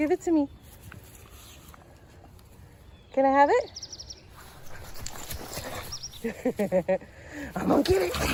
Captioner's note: human Laughs